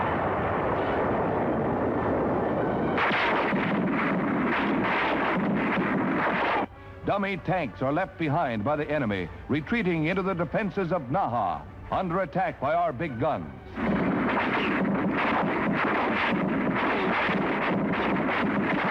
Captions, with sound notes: Dummy tanks are left behind by the enemy retreating into the defenses of Naha, under attack by our big guns. (guns firing)